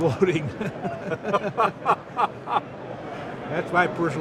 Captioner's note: laughs